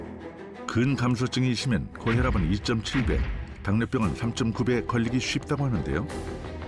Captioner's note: voiceover